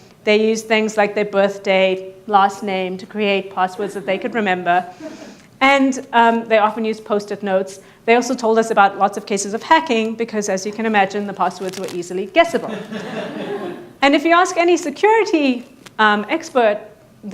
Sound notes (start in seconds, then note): 5.0 audience laughing; 12.6 audience laughing